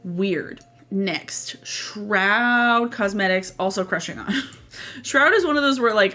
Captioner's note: laughs